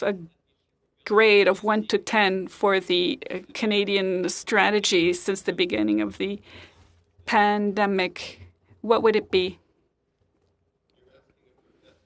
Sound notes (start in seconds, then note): 0.7 speaking French